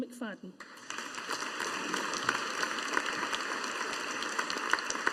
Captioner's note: audience applauding